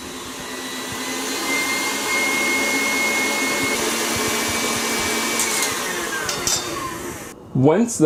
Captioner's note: mixing sounds